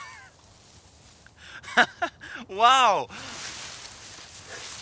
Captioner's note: chuckles